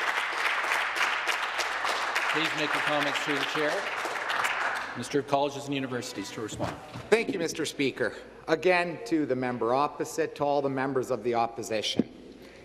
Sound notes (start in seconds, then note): 5.3 some Applause